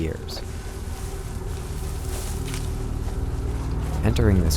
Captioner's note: leaves rustling